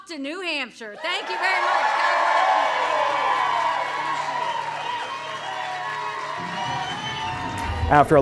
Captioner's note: applause